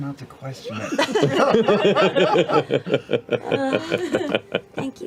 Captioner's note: laughter